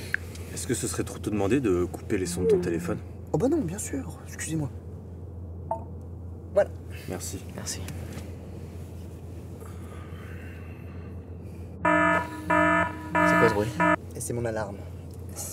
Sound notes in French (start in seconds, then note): 11.8 Son alarme du téléphone